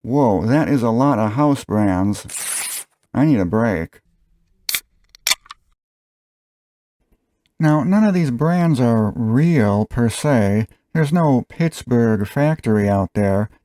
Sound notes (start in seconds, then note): 2.2 paper tearing sound; 4.5 beer opening sound